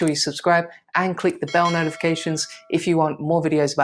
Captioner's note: bell chimes